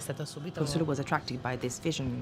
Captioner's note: speaks in Italian